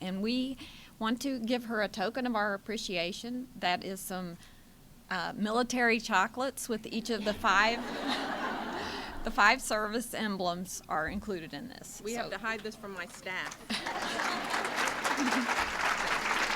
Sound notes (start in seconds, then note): 7.6 laughter; 13.5 laughter